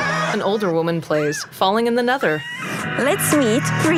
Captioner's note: screaming